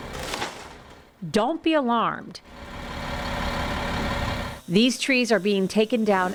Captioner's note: buzzing